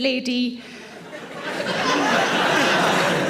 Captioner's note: audience laughing